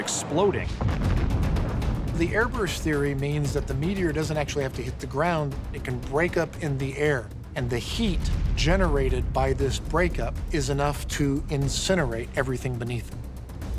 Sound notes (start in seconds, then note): 0.1 explosion booming